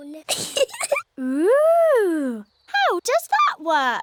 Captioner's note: giggles